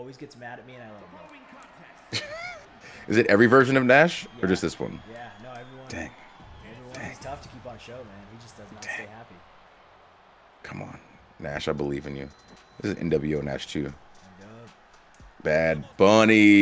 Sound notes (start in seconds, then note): 1.8 laugh